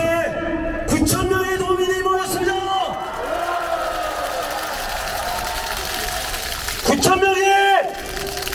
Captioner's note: applause